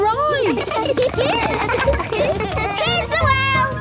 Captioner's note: laughter